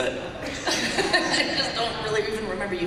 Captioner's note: laughter